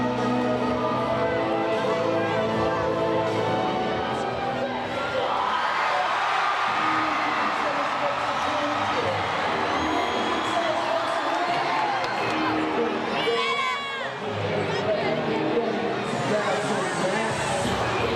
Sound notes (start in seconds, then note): 4.7 crowd cheering; 6.0 crowd chattering